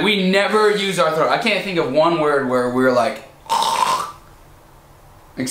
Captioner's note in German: chrrr